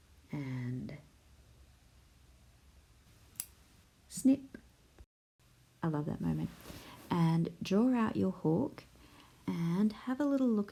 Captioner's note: sound of scissors